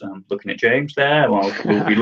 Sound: laughs

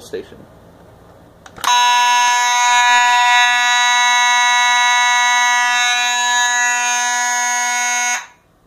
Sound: steady horn

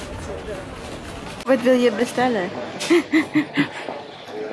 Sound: snickers

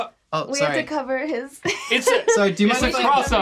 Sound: laughs

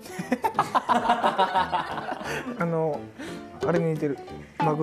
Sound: haha

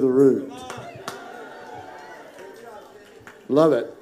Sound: congregation cheering

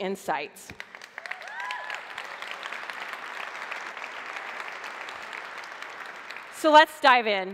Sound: applause

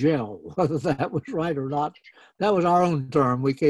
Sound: laughs

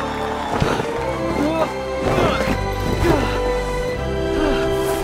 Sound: straining

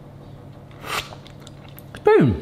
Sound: slurping

